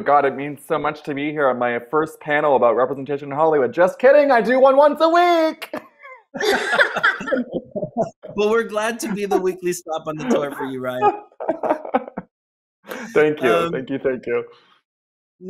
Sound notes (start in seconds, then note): 0.0 sardonically; 6.3 laughter